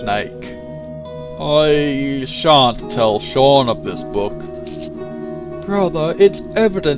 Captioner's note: H$awn hisses